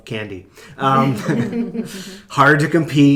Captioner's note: laughing